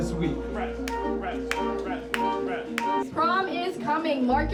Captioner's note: clapping